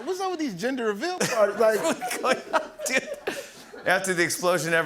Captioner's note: laughs